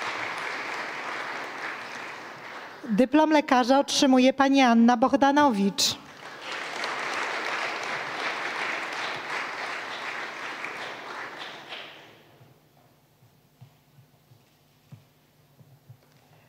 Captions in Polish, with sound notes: Dyplom lekarza otrzymuje Pani Anna Bohdanowicz. [oklaski]